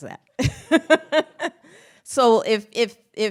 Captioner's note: laughs